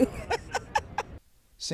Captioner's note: laughter